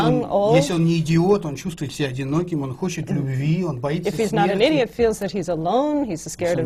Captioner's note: foreign language not transcribed